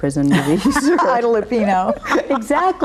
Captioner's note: both laugh